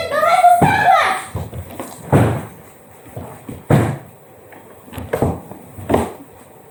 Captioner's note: thud